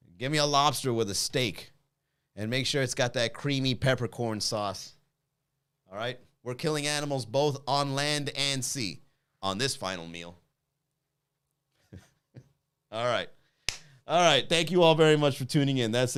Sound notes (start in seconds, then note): 11.8 chuckles